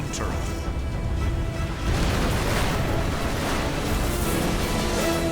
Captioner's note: explosion